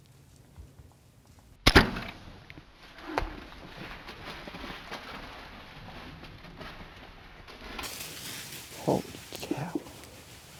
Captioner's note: whispering